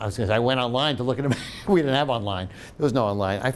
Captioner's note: laughs